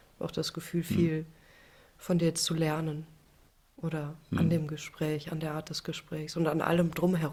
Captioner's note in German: räuspern